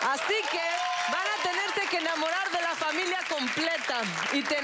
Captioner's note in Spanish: Aplausos